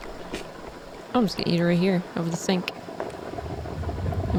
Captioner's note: eating sounds